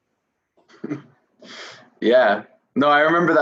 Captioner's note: laughing